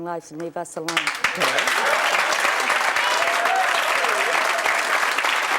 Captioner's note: audience applause